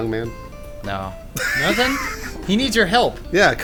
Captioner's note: wheezing